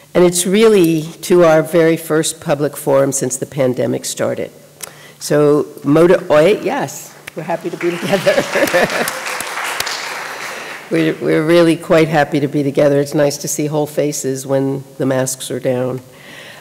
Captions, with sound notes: And it's really to our very first public forum since the pandemic started. So ¡Moda Hoy! ... Yes! We're happy to be together. [CHUCKLES] [AUDIENCE APPLAUDS] We're really quite happy to be together. It's nice to see whole faces when the masks are down.